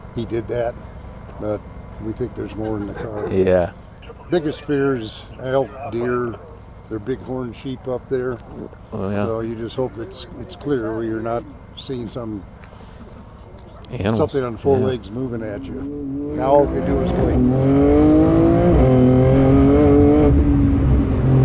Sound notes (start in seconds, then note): 18.6 car engine roaring